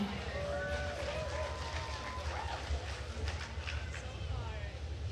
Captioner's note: attendees applauding